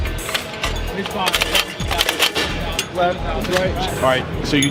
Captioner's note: metal jostling